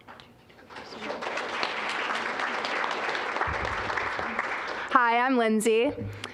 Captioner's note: applause